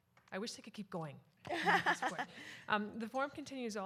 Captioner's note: laughter